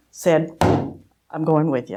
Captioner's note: slaps table